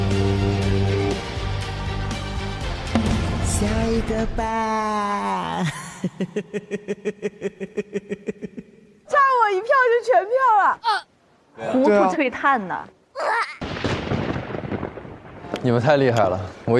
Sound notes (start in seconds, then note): 13.3 stumbling